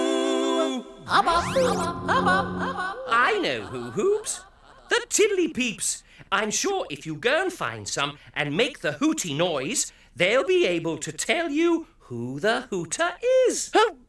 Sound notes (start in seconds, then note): 1.2 Hubba Hubba echoing